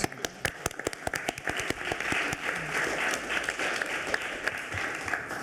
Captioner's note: everyone applauding